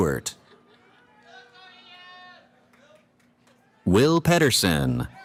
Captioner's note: cheering